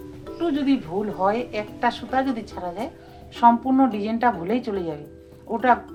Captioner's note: speaking foreign language